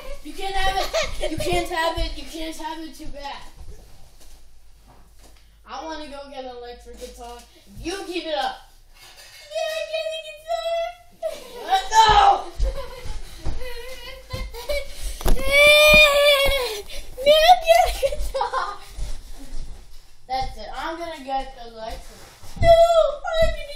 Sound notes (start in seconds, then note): 0.0 laughing; 13.6 laughing again